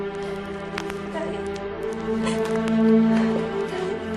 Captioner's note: sobs